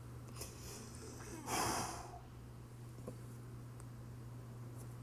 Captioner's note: heavy breathing